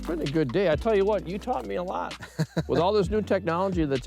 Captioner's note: laughing